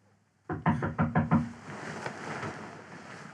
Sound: knocking

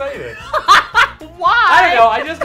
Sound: laughs

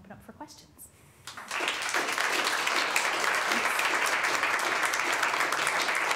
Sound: applause

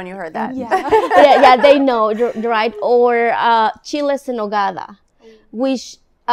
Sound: laughs; speaking in foreign language

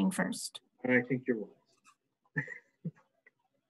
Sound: chuckles

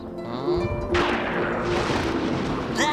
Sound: thundering

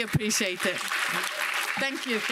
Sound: audience applauding

